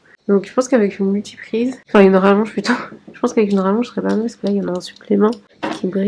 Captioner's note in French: rires